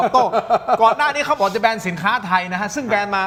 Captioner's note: laughs